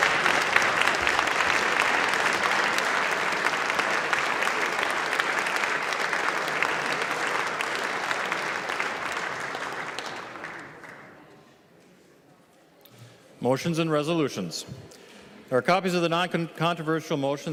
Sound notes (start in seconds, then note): 6.9 clapping